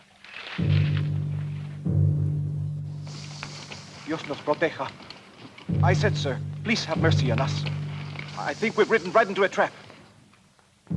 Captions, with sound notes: (Ramirez speaks Spanish) - I said, sir, please have mercy on us. I think we've ridden right into a trap.